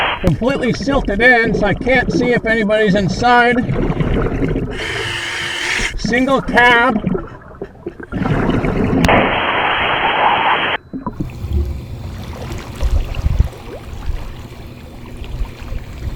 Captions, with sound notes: Completely silted in, so I can't see if anybody's inside. (regulator hissing) Single cab. (water burbling) (water sloshing)